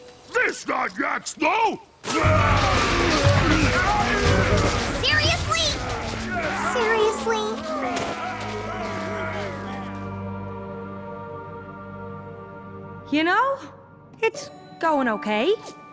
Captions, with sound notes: THIS NOT YAK SNOW! [crashing and growling] Seriously? Seriously? You know? It's going OK.